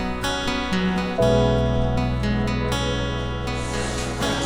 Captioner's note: crowd chattering